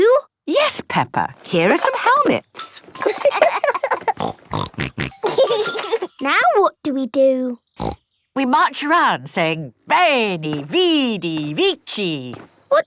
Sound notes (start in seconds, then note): 2.6 laughing; 4.0 snorting